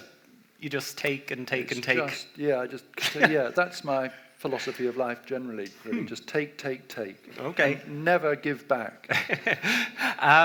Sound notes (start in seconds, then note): 9.1 laughs